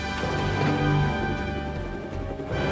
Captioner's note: bell